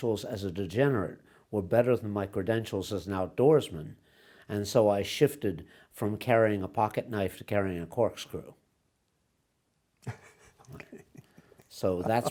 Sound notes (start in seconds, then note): 10.0 laughs